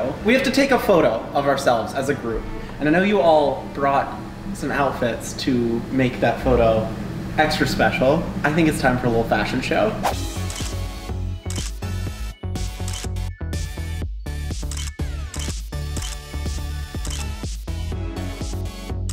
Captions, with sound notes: We have to take a photo of ourselves as a group and I know you all brought some outfits to make that photo extra special. I think it's time for a little fashion show. (upbeat music) (camera clutters)